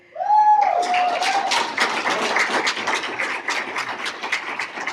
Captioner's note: cheers and applause